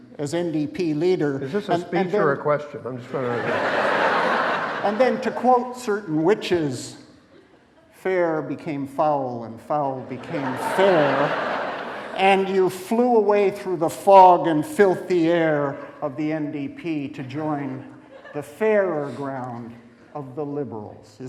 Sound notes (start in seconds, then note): 3.0 audience laughing